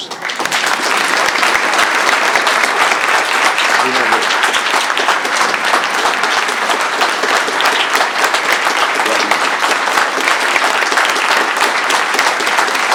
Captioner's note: applause